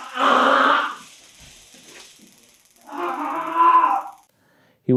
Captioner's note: Vilimsky screams